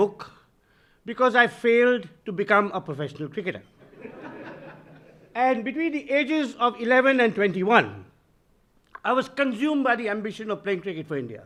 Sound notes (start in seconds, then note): 3.8 audience laughing